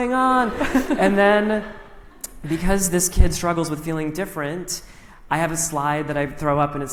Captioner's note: laughter